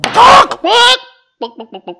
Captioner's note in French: bang